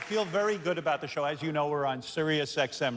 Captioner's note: cheers and applause